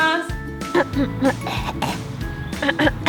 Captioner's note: clears throat; coughs